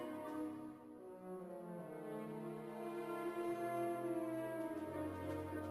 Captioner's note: none